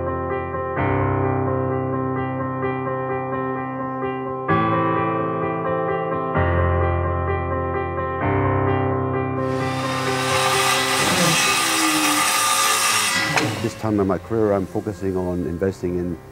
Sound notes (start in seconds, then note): 9.4 sound of a loud saw in the background